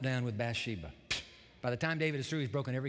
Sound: scoffs

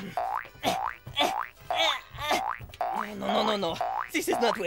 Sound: grunting

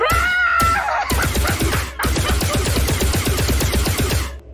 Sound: gun goes off

